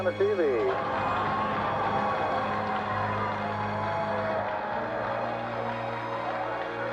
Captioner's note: cheers and applause